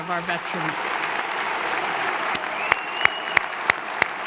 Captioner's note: applause